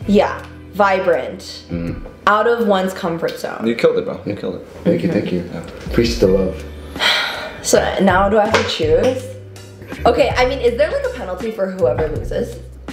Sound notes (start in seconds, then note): 6.8 sighs